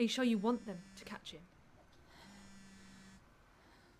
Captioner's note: phone vibrating